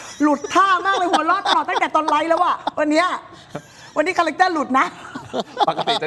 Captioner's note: laughs